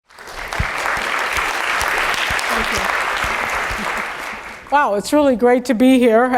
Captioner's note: applause